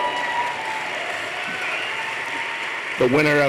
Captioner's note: applause